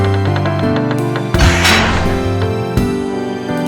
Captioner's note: bam